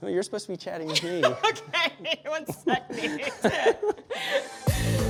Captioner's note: chuckles; upbeat music